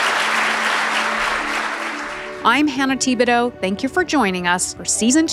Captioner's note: audience clapping; gentle music